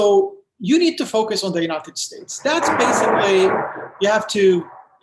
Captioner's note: thunder